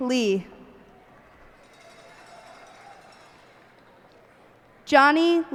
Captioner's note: cheers and applause